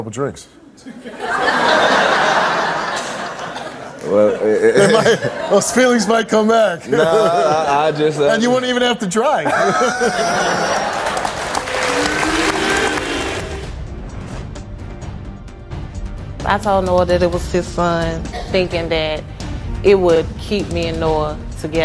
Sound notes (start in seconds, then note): 0.8 audience laughs; 4.4 laughs; 6.8 laughs; 9.5 audience cheers